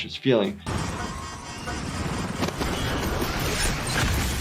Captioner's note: alarm blaring